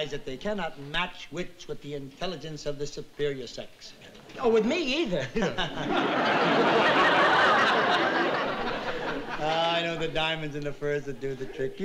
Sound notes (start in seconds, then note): 5.0 laughing; 5.0 laughs